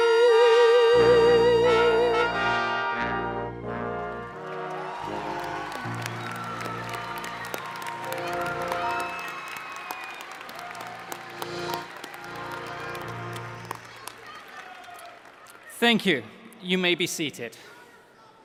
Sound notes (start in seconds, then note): 6.3 cheering